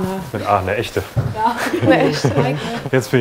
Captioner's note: laugh